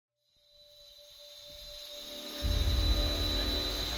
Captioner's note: drill whirring